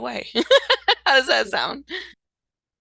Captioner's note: laughs